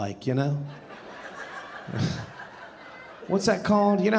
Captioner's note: audience laughing